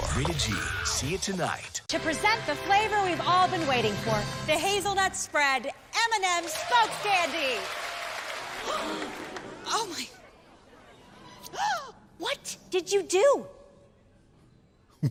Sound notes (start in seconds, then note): 7.7 clapping; 8.6 audience gasps